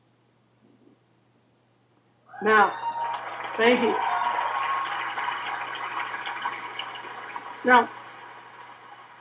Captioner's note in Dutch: gejuich en applaus uit het publiek